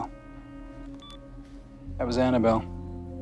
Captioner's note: beeps